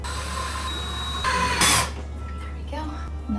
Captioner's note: whirring